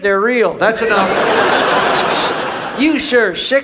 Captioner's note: audience laughs